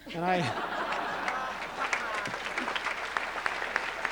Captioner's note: laughter, applause